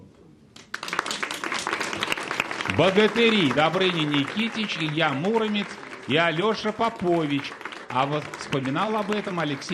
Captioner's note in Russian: аплодисменты